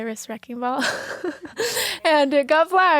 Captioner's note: laughing